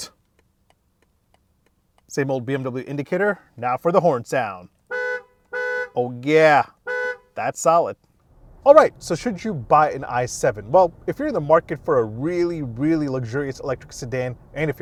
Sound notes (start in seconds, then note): 0.2 car indicator ticking; 4.9 horn blaring